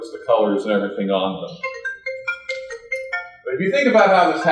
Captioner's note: phone ringing